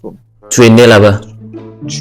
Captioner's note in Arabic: بالفرنسية